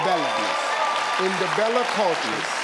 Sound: audience cheering

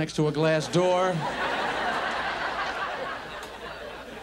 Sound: audience laughs

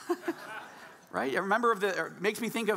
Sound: laughing

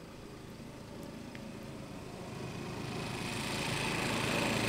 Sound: mower noises

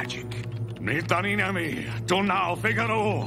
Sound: chanting

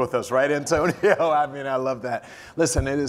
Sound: laugh

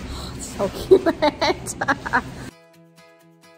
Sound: laughing; soft upbeat music

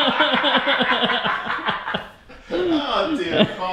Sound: all laugh

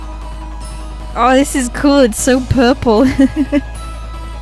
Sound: laughs

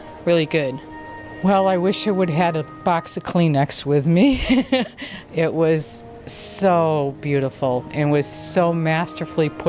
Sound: laughs

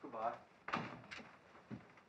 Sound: door closes

